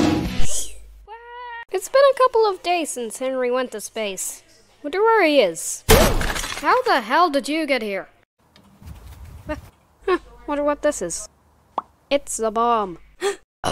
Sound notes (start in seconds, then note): 5.9 crash